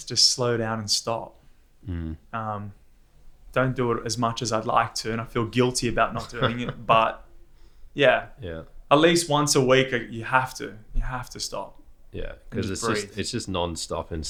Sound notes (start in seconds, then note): 6.0 laughs